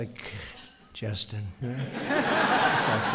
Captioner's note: laughter